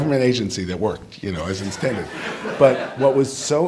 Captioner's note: all laughing